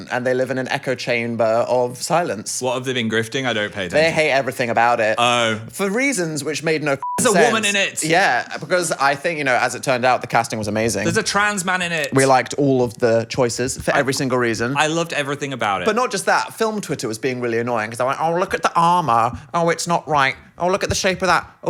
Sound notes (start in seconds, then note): 7.0 beep